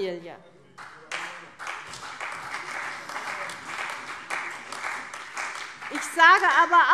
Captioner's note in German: Beifall CDU und BÜNDNIS 90/DIE GRÜNEN